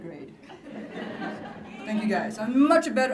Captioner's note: laughter